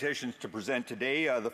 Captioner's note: speaking French